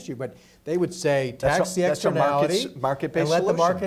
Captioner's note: murmurs